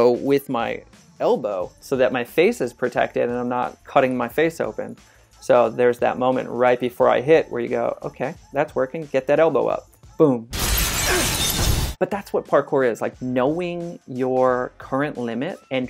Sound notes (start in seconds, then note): 10.5 glass shatters